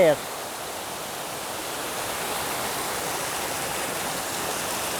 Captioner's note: water rushing